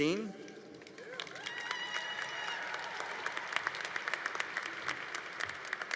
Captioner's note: congregation applauding